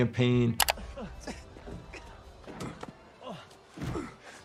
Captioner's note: people grunting